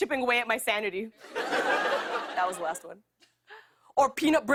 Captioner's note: laughter